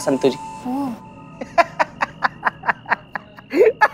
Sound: exclaims; laughs

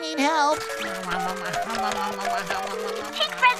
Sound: chomping

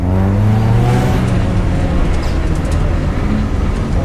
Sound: car engine roaring

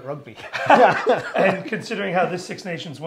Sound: both laughing

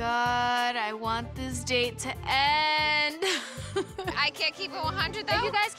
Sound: laughs

